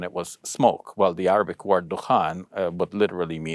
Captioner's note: speaks Arabic